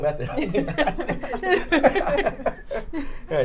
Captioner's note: all laughing